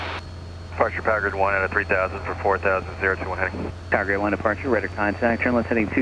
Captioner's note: radio chatter